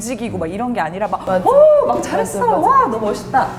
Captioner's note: endless cheering